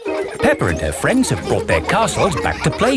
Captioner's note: children laughing